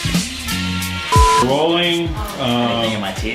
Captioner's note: beeps